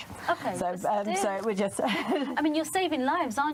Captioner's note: laughs